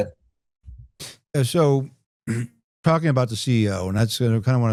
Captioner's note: clears throat